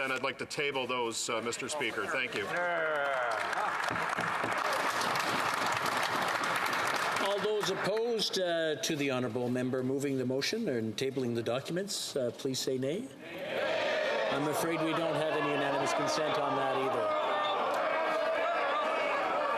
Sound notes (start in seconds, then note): 7.1 some Applause